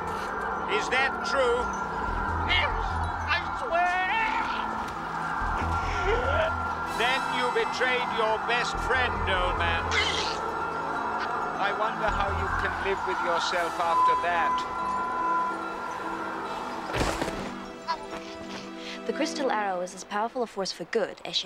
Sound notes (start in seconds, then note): 4.9 choking